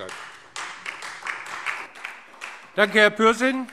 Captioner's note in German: Beifall Freie Demokraten und vereinzelt SPD